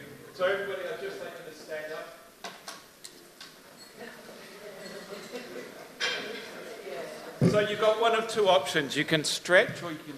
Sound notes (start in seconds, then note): 4.0 crowd murmuring